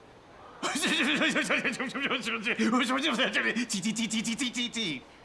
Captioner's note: uncle speaking gibberish